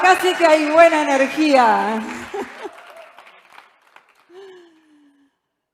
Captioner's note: aplausos